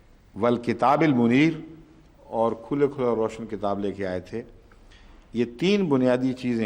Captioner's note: Arabic